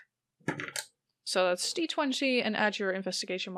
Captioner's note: dice clacks